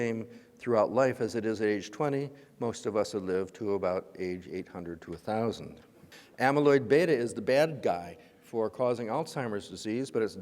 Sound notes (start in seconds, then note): none